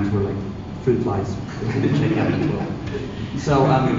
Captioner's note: laughing